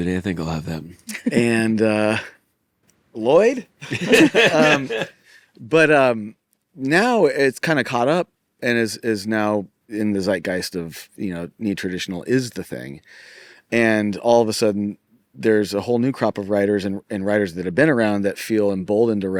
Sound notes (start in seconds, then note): 3.8 all laughing